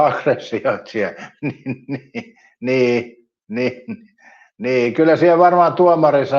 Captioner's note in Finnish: naurua